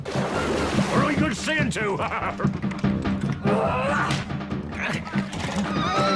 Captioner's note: laughing